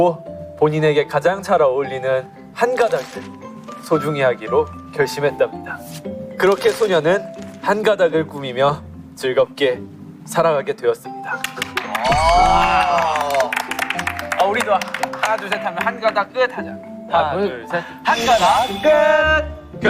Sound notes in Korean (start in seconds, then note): 11.8 환호